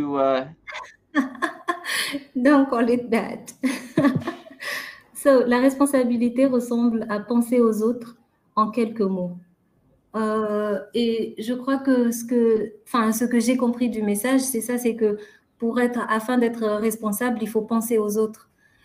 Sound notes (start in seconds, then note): 1.0 laughing; 5.7 speaking french